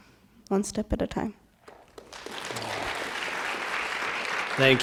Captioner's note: applause